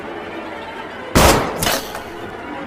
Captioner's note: bang!